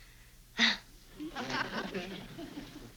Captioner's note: nervous chuckle